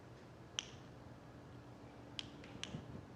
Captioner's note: fingers snapping